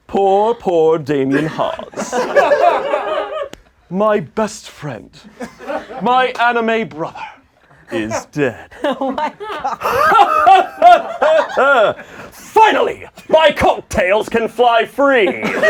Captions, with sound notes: - Poor, poor Damien Haas. (laughing) My best friend. My anime brother is dead. - Oh my God. (laughing dramatically) - Finally, my cocktails can fly free!